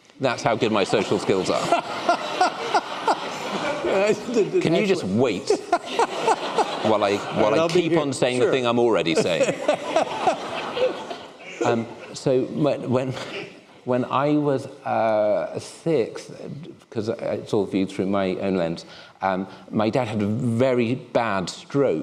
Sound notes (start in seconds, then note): 0.8 laughter